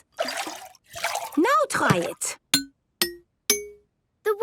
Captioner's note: pitched tinks